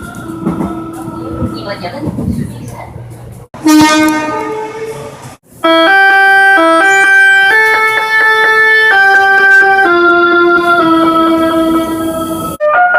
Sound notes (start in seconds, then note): 3.6 air Horn